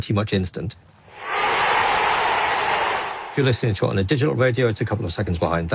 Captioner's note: crowd cheering